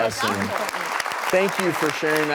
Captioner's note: applause